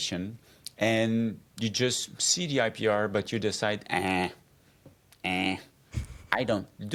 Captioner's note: grunts